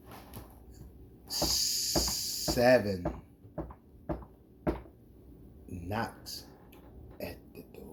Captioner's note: knocks the table